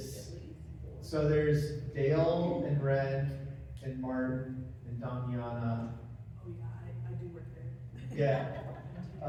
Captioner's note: laugh